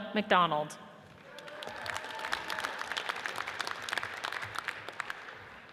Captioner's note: audience cheers and applauds